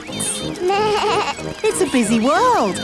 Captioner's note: bleats